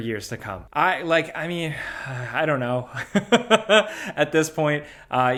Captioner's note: laughs